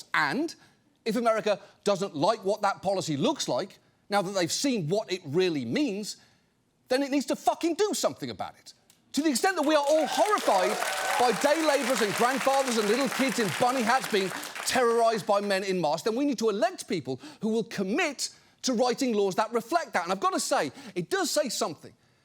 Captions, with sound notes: And if America doesn't like what that policy looks like, now that they've seen what it really means, then it needs to fucking do something about it. To the extent that we are all horrified... -(AUDIENCE CHEERS) -...by day laborers and grandfathers and little kids in bunny hats being terrorized by men in masks, then we need to elect people who will commit to writing laws that reflect that. And I've got to say, it does say something